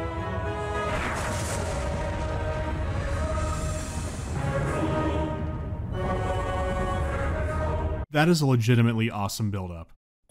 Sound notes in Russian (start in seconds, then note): 0.7 грохот